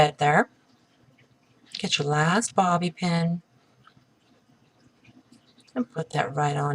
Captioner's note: softly spoken; pause